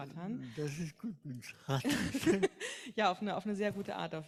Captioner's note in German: beide lachen